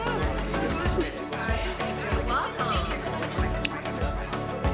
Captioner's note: background chatter